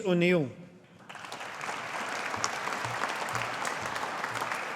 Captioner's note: audience applauding